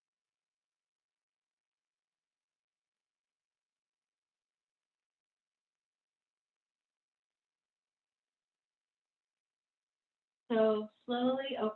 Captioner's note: silence